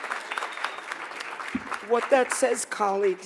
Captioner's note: applause